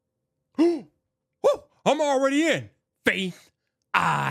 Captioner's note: gasp